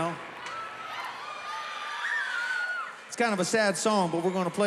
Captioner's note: spectators cheering